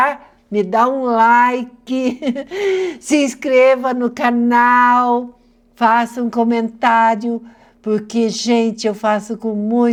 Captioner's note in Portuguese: risadas